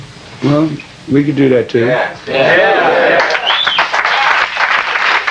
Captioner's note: applause